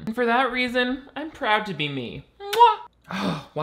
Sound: kisses

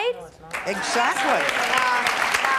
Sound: applauding

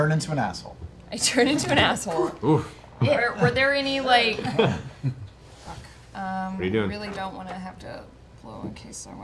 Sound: giggling

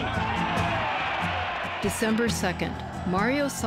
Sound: audience cheering

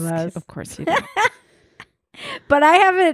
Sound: laughs loudly

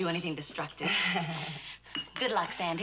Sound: laughing

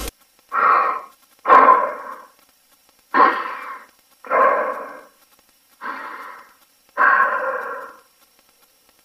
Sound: weird breathing sound

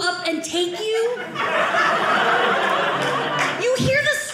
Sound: audience laughing

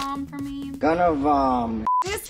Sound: voiceover

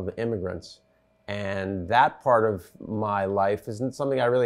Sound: none

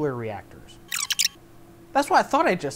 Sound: fastforward sound effect

